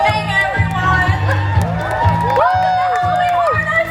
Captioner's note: guests cheer and clap